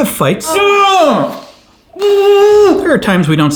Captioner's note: angry noises